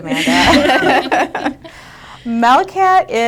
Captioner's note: group laughing